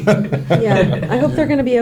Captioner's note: laughs